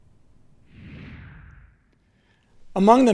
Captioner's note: air whooshing